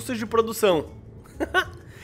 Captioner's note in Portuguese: risos